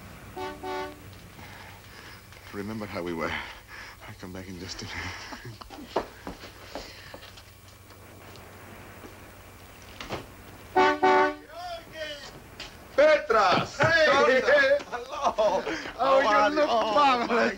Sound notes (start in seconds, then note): 10.7 horn honks